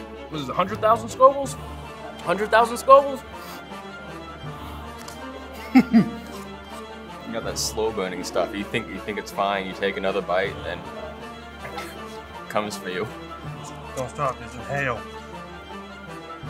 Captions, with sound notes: This is a hundred thousand Scovilles? Hundred thousand Scovilles [laughs] Got that slow burning stuff, you, you think it's fine, you take another bite, and then, it comes for you Don't stop, just inhale